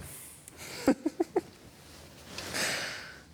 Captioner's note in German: rowling lacht